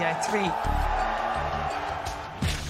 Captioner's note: crowd cheering